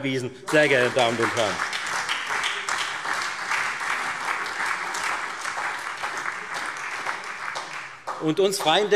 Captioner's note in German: Beifall Freie Demokraten und SPD